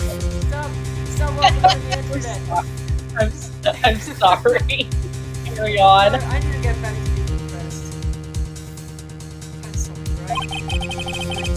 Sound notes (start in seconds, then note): 4.4 laughs